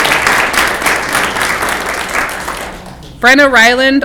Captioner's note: clapping